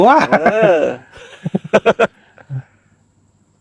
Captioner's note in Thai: เสียงหัวเราะ